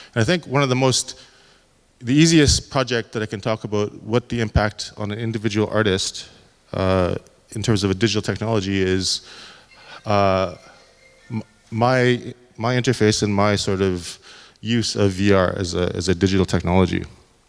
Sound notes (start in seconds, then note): 9.4 cell phone rings